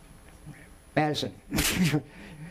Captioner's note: chuckles